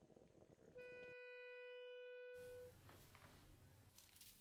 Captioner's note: long beep